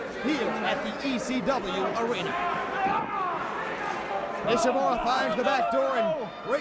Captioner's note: crowd chatter